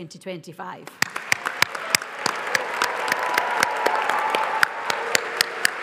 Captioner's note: audience applauds